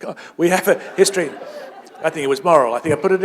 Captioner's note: laughter